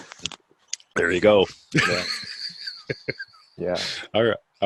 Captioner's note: laughing